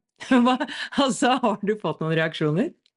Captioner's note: laughter